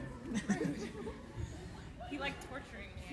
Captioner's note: laughs